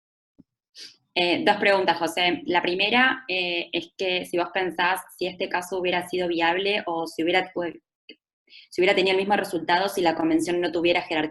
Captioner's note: Spanish